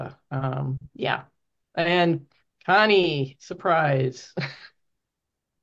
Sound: chuckles

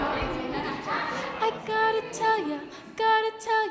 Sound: indistinct chatter

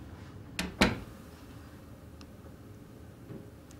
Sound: door shuts

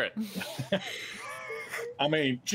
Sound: laughs

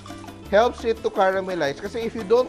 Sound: sizzle

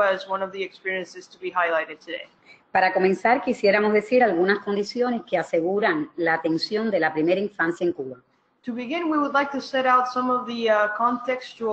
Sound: speaking another language

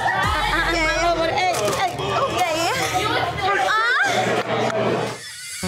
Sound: waitresses groaning

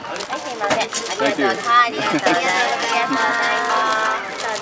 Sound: women speaking Japanese

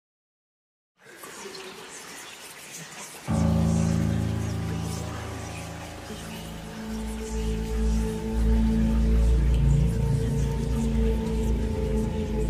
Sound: whispers

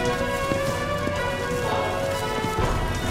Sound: running footsteps

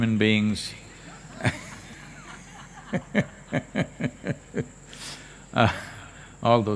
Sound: laughter

